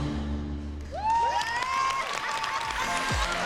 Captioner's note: applause and cheers